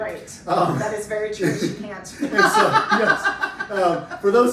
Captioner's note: laughter